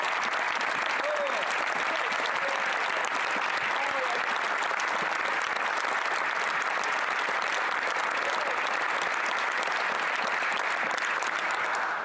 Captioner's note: applause